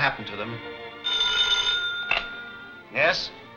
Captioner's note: phone ringing